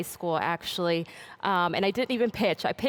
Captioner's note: none